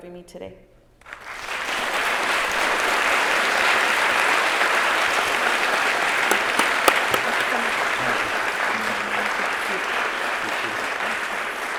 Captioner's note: applause